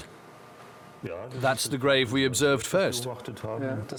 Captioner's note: in German